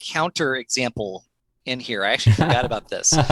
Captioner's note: laughter